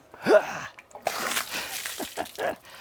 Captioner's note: water splashing; laughing